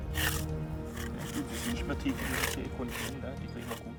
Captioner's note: speaking German